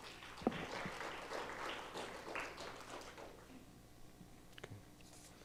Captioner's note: audience applauding